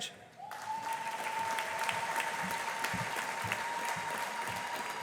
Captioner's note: audience applauding